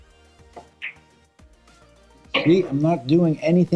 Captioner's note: ball smacks